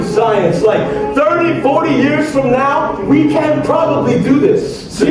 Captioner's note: mumbling theories; mumbling theories